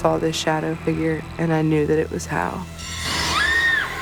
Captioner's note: screaming continues